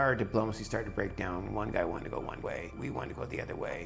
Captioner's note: voiceover